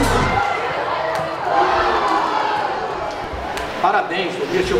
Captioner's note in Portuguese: sons da torcida